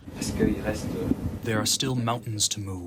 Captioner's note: through translator